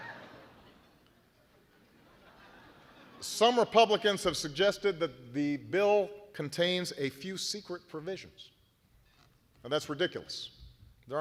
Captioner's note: laughter